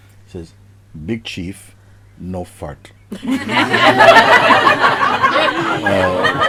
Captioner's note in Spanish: Risas